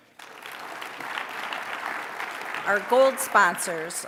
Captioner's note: applause